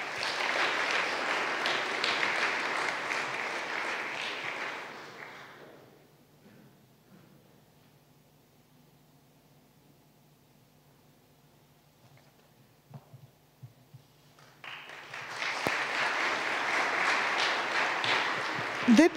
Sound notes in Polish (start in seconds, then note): 0.0 oklaski